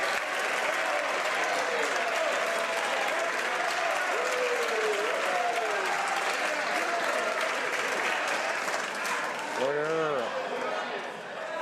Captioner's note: cheering/Applause